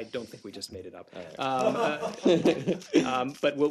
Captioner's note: laughter